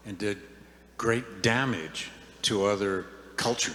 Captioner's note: none